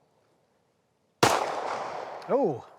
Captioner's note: gun bangs